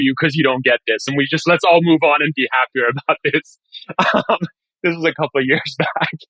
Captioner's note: laughing